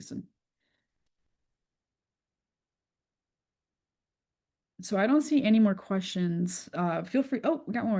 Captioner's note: pause